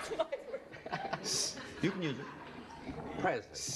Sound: laughs

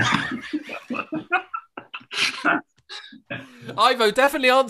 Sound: laughter

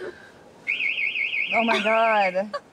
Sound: both laughing; alarm ringing

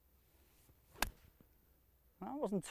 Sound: hitting ball

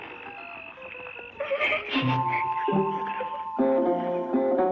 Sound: chuckles

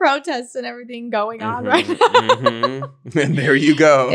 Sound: laughing

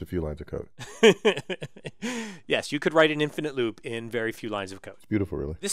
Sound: laugh

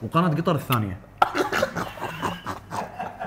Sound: laughs

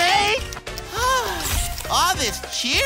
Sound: sighing

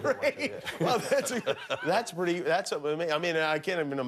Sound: laughter

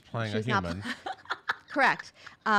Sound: laughs

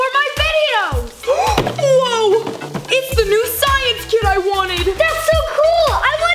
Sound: gasps

